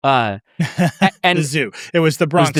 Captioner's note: laughing